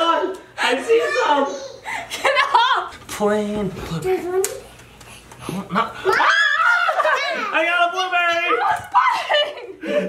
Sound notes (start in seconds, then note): 1.9 laughs; 4.9 mutters; 6.1 screaming